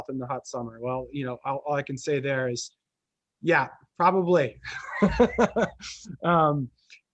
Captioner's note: laughs